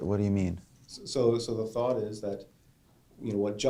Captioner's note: voiceover